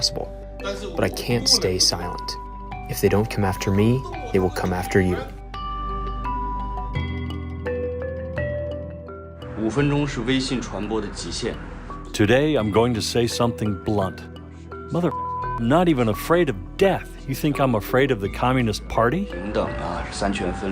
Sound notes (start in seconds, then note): 10.1 speaking foreign language; 15.7 beeping